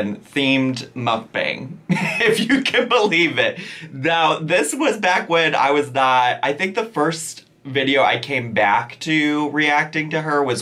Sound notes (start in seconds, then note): 1.8 laughing